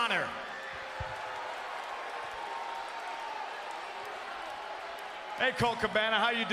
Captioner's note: applause